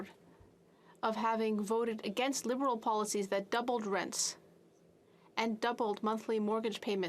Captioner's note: speaking French